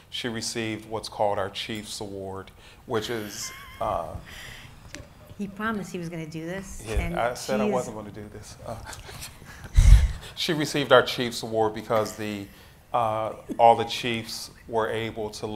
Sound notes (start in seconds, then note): 3.0 laughs; 8.6 laughs